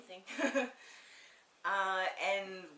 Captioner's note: laughs